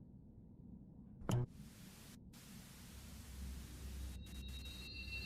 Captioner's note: TV static buzzing